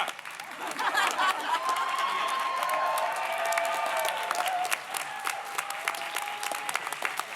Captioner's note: audience laughs; audience cheers